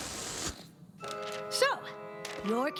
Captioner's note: air hissing